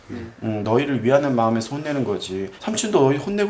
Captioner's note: yawning; snapping